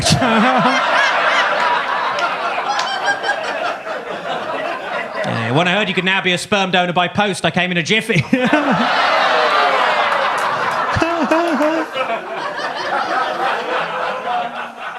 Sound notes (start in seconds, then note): 0.0 audience laughs; 8.2 audience laughs; 8.6 audience groans